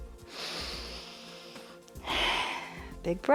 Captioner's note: inhales and exhales